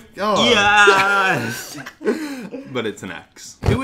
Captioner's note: both laugh